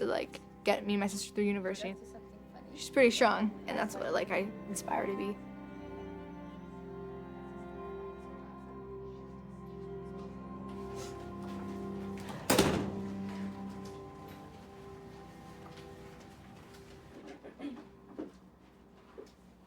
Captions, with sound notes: just to like, get me and my sister through university. She's pretty strong and that's what I like, I aspire to be. [door shuts]